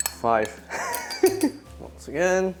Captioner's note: chuckles